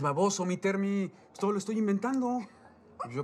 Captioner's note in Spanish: Ríe